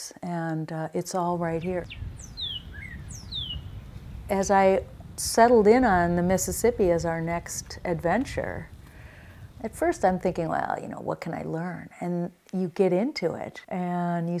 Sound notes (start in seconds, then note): 1.6 birds chirping